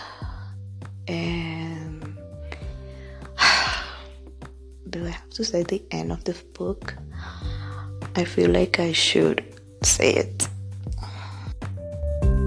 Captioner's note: sigh